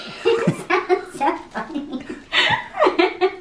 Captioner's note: laughs